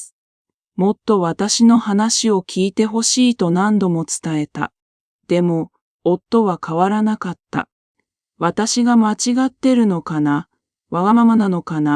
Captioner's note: Kazuko speaking in another language